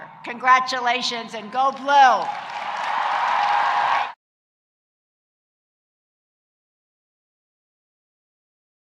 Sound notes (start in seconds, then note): 2.1 audience cheering and applauding